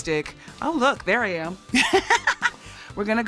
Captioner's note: laughs